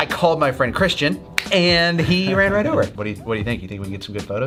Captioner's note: snaps fingers